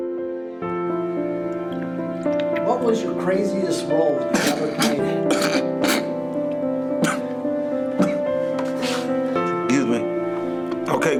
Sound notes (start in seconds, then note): 4.3 chokes